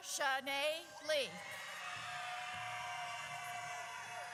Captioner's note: audience cheers